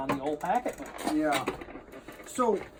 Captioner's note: chair squeaking